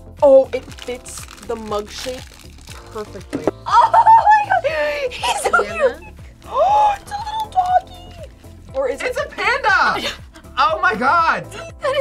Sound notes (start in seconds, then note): 3.6 laughs; 5.8 gasps; 9.9 laughs